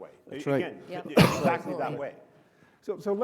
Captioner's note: coughs